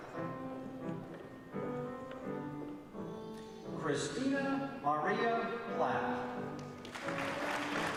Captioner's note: applause